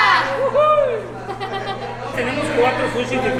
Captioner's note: laughs